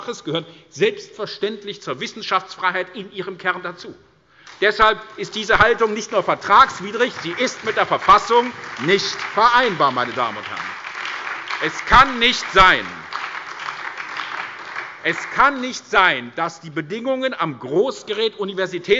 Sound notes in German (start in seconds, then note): 10.3 Lebhafter Beifall bei der SPD